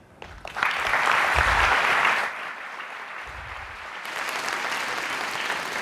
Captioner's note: applause